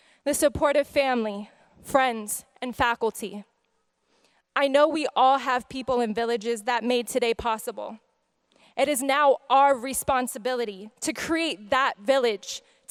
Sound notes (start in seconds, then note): none